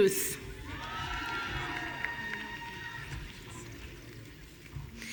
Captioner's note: audience cheering